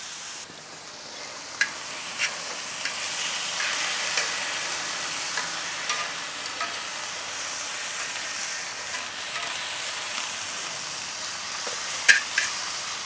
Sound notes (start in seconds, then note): 1.6 tongs scrape against discada